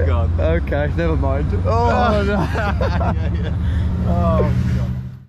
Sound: both laugh

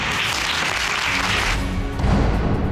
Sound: audience applauding

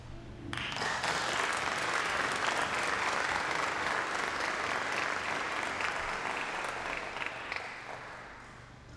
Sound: applause

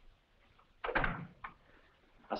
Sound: door bangs shut

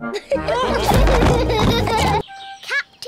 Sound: all laugh

